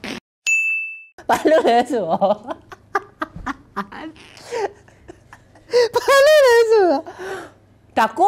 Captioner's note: continues to laugh